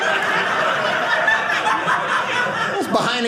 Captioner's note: audience laughing